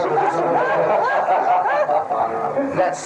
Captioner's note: all laughing